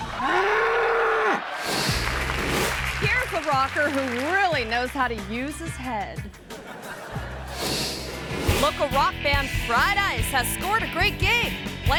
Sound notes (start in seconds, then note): 0.1 bull bellowing; 1.6 screen whooshes; 6.6 audience laughing; 7.6 screen whooshes